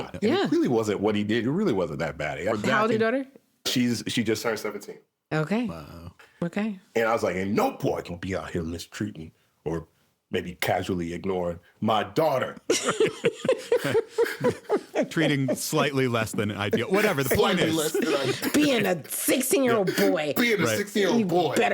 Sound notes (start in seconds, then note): 12.7 everyone laughing